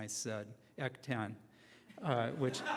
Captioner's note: laughing